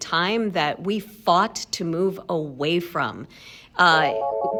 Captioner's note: phone rings